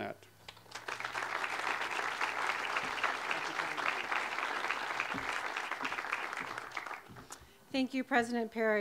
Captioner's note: audience applause